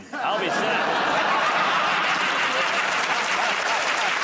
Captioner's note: laughter; applause